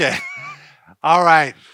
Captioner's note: laughing